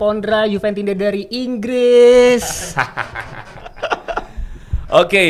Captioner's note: laughs